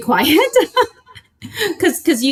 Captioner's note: laughs